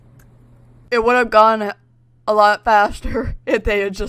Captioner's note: laughs